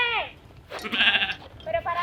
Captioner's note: animal sound